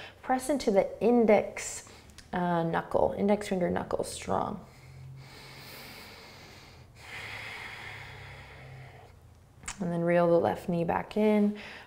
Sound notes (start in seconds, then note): 4.6 breathing